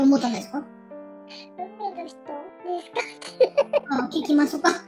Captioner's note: laughs